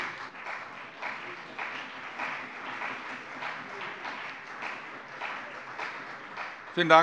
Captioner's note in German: Beifall CDU und BÜNDNIS 90/DIE GRÜNEN